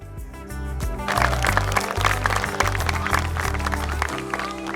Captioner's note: audience applauding